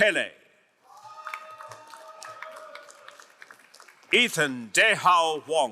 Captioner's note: crowd cheering and applauding